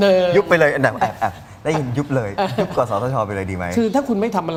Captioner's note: laughs